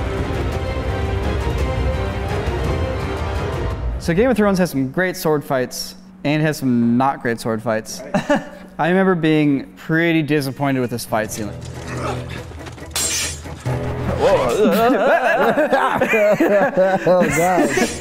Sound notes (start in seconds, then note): 8.0 laughter; 15.1 grunts; 15.7 laughter